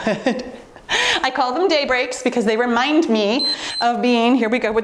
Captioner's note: timer beeps